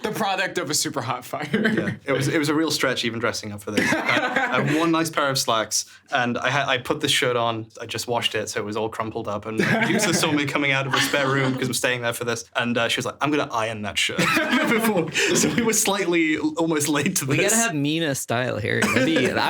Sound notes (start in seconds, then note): 1.4 chuckles; 3.7 laughing; 9.6 laughing; 14.2 laughing; 18.8 chuckling